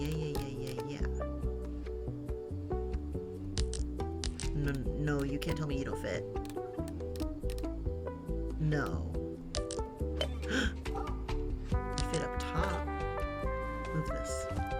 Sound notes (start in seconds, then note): 10.4 gasps